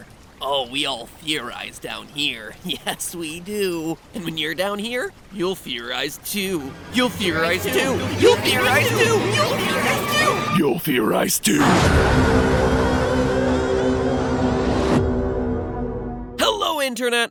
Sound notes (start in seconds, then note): 10.4 Demonic voice; 11.6 dramatic Music